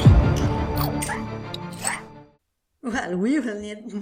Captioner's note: Golem sounds